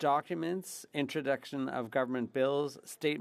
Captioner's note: speaking French